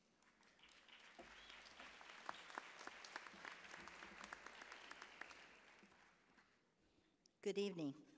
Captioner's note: applause